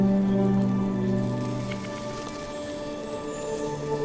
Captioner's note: wings flap